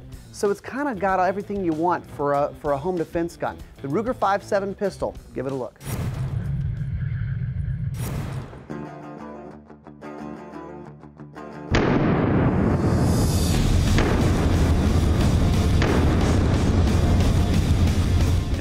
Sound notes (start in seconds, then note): 8.7 upbeat music; 11.7 gunshot sounds